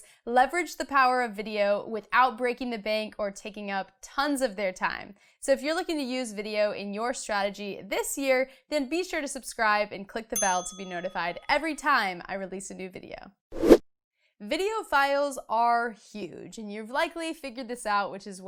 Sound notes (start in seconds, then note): 10.3 bell dings; 13.5 air whooshing